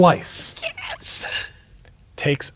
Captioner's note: squeaking